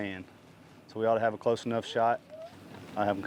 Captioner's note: motor rumbles gently